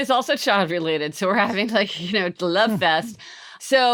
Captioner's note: chuckles